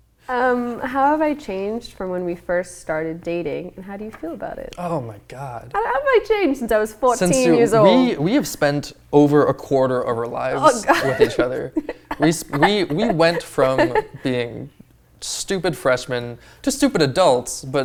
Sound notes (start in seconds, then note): 10.5 laughing